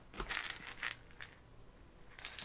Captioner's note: shake shake